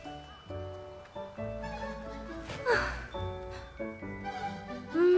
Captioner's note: phew